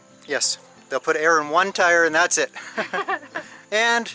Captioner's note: laughter